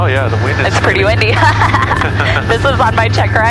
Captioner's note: both laughing